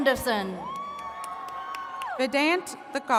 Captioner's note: attendees cheering